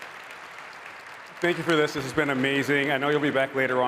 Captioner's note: applause